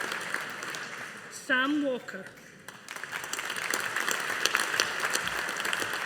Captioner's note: audience applauding